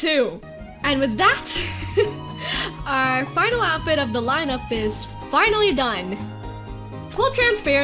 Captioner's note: normal voice